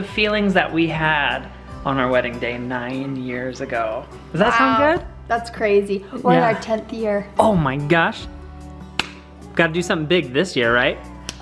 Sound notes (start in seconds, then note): 8.9 hands slap